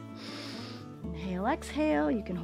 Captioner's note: inhales